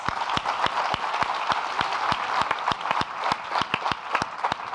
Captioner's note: audience applauding